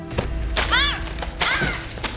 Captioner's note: Alejandra shouts